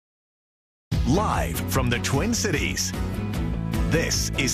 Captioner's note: voiceover